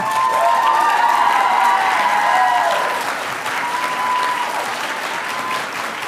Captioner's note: audience cheering and applauding